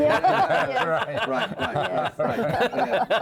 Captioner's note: laughing; laughing continues